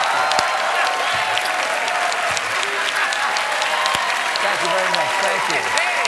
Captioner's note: cheers and applause